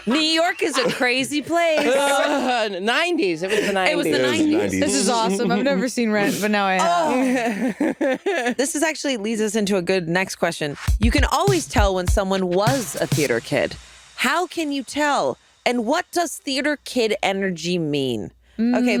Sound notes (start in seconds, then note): 0.0 all laughing; 6.8 laughing